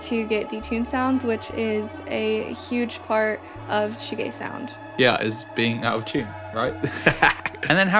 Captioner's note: laughs